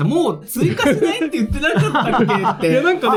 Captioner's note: laughs